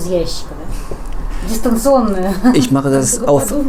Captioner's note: laughter